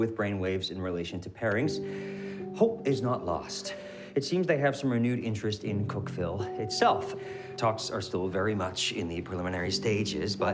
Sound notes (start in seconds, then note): none